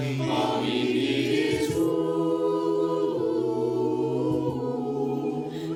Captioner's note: humming